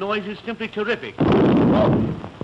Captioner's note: boom